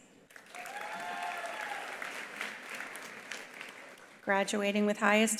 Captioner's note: attendees applauding; attendees cheering